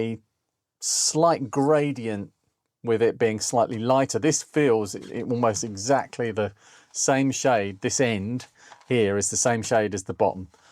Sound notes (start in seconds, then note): none